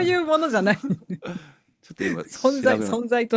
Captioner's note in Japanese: 笑い